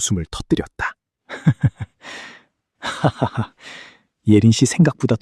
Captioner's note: laughter